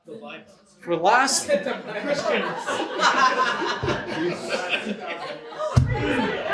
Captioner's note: audience chatter and laughing